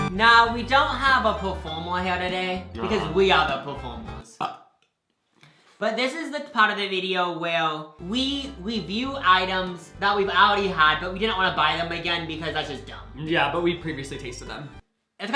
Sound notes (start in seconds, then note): 4.4 burps